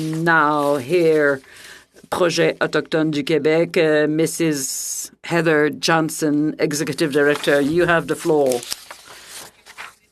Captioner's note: speaking french